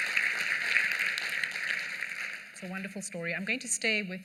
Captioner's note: applause